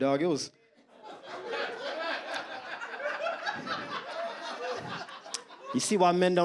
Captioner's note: audience laughs